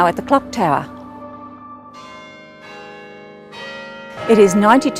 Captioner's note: bells ringing